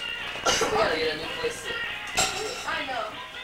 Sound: coughs

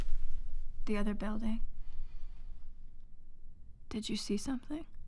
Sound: none

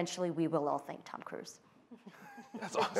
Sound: laughter

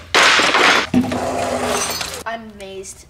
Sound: crash

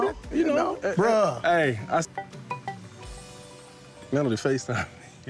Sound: cell phone ringing

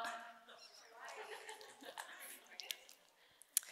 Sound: audience laughs

